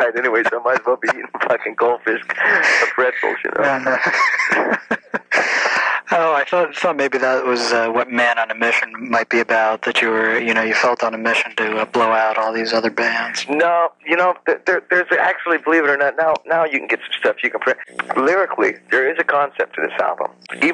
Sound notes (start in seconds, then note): 2.2 laughs; 6.9 chuckles